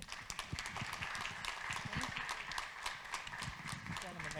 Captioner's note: audience clapping